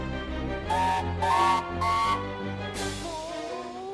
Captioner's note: mighty mac whistle